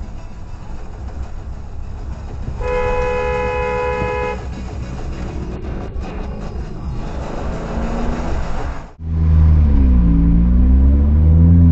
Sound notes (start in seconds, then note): 2.6 disapproving honk